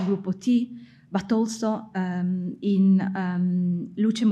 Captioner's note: speaking in foreign language